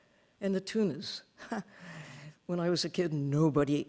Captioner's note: laughing